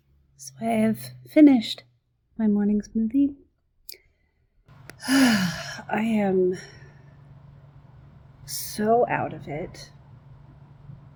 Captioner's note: sighs